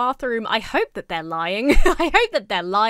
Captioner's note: laughs